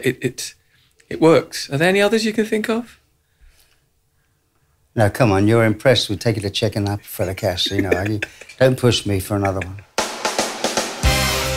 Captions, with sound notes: It, it's, it works. - Are there any others you can think of? - Now Come on You're impressed We take the cheque in that fella Cash you know, [Laughter] don't push me for another one. [Soft Music]